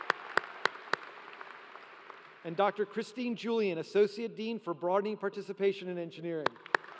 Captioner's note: applause